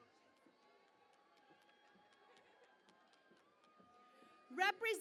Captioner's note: cheering and Applause